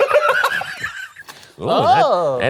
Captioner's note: both laughing; projector clicking